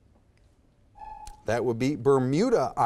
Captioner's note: timer buzzes